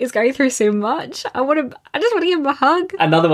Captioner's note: none